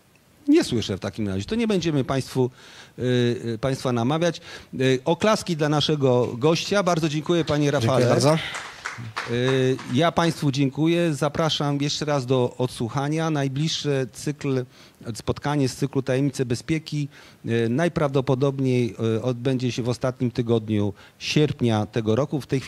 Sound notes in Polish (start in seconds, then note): 7.4 oklaski